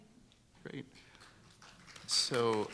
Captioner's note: room applauding